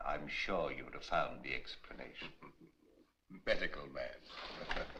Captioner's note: both Chuckling